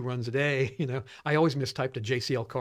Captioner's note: laughs